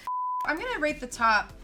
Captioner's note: beep